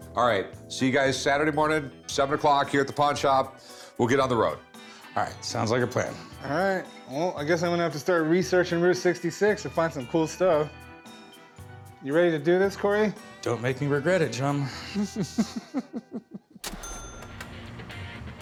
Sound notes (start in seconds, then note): 14.8 chuckles